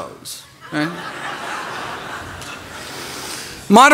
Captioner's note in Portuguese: risos